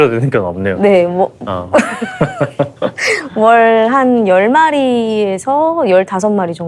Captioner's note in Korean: 웃음